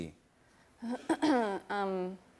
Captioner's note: clears throat